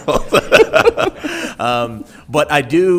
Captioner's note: people laughing